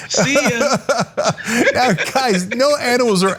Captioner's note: laugh